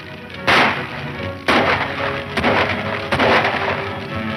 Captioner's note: shots fire